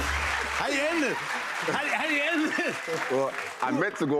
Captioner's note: laughing